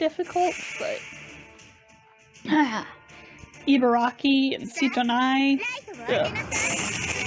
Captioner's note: groans; missile firing noises